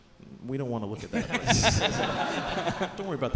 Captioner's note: audience laughing